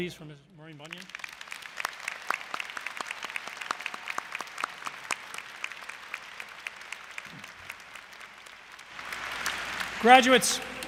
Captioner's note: applause